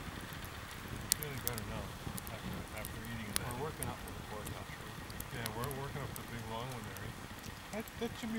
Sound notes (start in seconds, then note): 1.3 fire crackling; 3.6 chatter